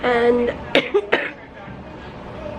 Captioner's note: coughing